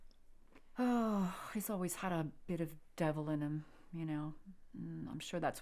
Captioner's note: sighs